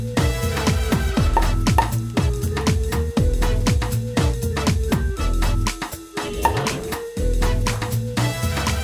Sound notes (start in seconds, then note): 1.3 corks popping